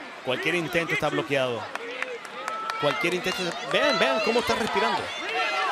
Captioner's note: commentator speaking Spanish